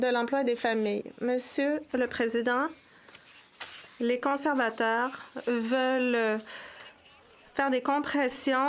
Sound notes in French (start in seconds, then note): 2.1 voix de l'interprète